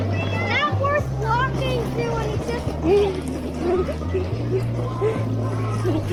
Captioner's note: murmuring